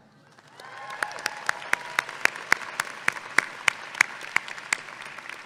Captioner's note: audience clapping and cheering